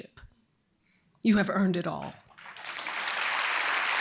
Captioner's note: applause